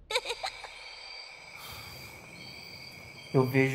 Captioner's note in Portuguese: grilos cricrilando; risos